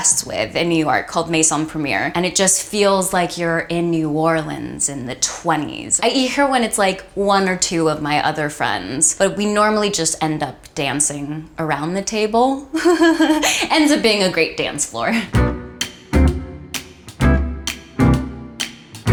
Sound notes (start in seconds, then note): 12.7 laughs; 15.2 playful jazz music